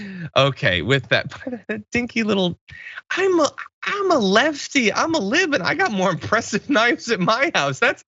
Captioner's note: laugh